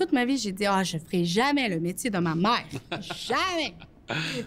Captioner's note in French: rires